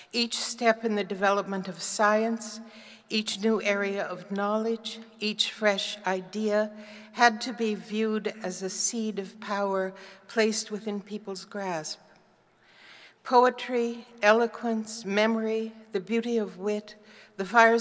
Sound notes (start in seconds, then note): none